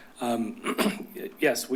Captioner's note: clears throat